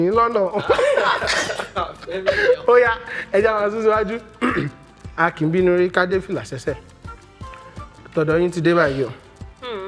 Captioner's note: laughs